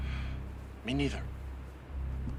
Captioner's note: sighs